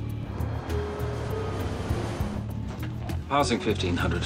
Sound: plane passing

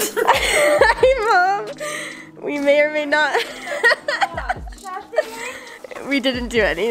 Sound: laughing

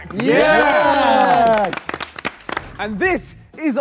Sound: Sidemen cheer

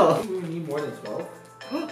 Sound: timer alarm goes off; gasps

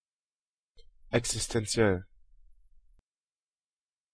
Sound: fast Pronunciation

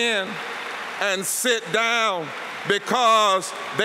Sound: applause

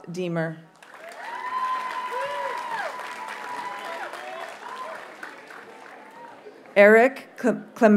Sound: audience cheers and applauds

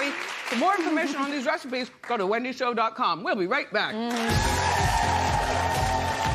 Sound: applause

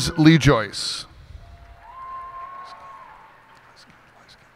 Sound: cheers and applause

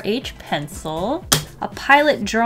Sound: smack

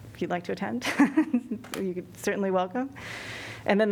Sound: laughter

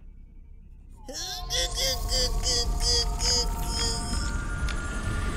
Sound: whiny grunts

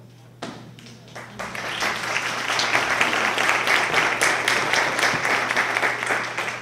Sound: applause

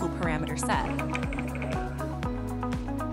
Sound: simulator clacks; gentle upbeat music; simulator clacks

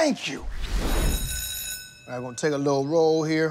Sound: school bell ringing

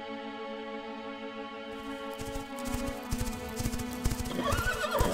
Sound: horse galloping; horse neighs

